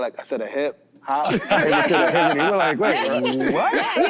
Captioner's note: group laughs